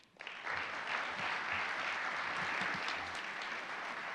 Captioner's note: applause